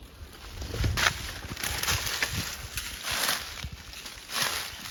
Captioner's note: leaves crunching